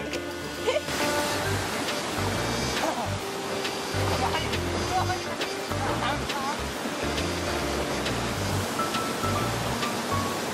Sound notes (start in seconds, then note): 0.8 splash